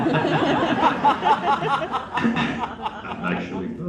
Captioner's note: laughs